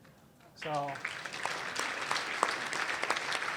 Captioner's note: applause